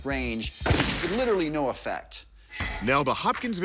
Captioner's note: gun firing